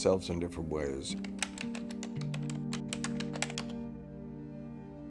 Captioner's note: keypad beeping